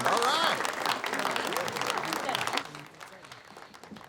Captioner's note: students clapping